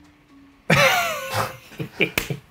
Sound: laughing; claps

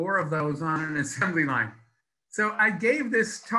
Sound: laughs

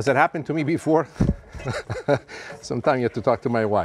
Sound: chuckles

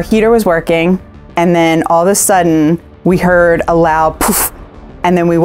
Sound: poof

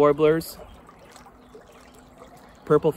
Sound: water trickling

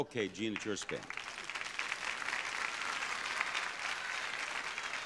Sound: audience applauding

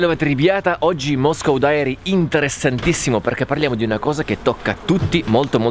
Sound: says Hi in Russian

